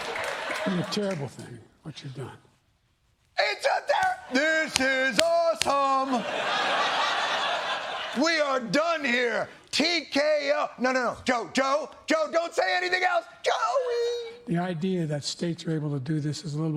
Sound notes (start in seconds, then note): 5.6 laughter